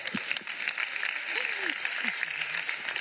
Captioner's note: laughter